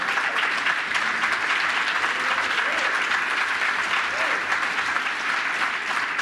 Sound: applause

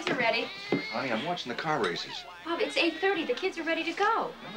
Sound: laughing

